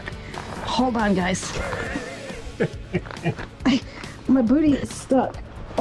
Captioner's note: laughs